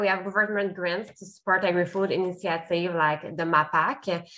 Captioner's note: speaks French